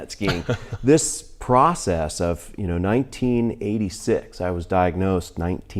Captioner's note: laughs